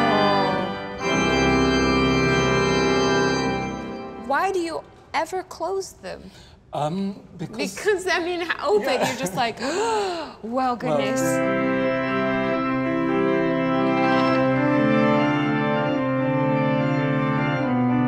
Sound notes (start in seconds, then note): 0.0 organ chimes; 9.6 breathes deeply; 10.9 organ chimes